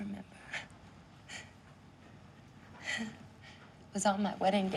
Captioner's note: laughs